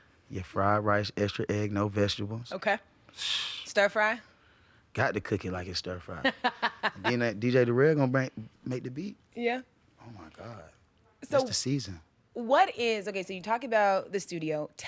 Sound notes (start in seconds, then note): 6.1 laughing